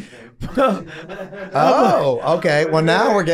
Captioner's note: group chuckling